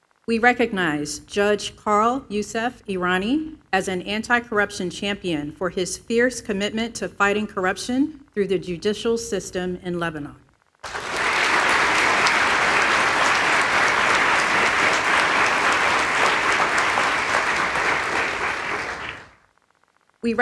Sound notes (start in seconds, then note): 14.8 applause